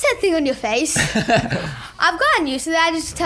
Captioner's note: laughing